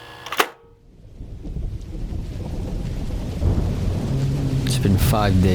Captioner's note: VHS player starting; muffled thunder and rain; large creatures groaning in the distance